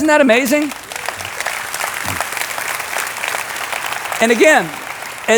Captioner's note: crowd clapping